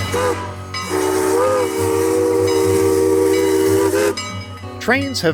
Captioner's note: steam Whistle